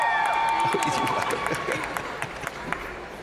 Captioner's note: crowd cheering; crowd applauding; presenter chuckling